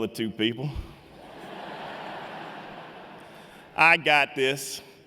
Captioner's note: laughter